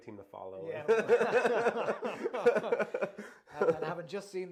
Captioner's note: both laughing with gusto